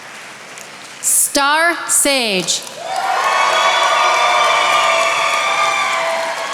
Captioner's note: attendees applauding